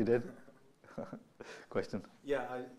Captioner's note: laughs